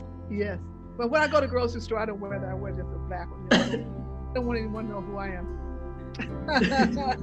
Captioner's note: laughs